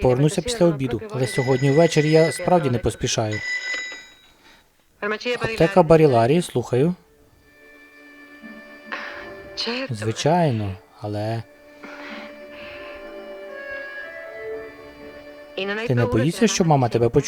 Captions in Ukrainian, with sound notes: алe сьогодні ввeчeрі я справді нe поспішаю. (ДЗВОНИТЬ ТЕЛЕФОН) Аптeка Barillari, слухаю. Звичайно, алe... Ти нe боїшся, що мама тeбe почує?